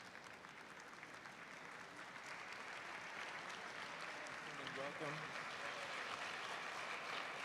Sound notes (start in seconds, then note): 0.0 audience applauds